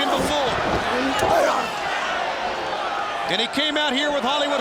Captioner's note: Goldberg grunts